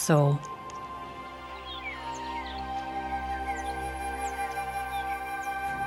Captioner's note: animals calling